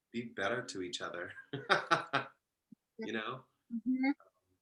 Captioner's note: laughs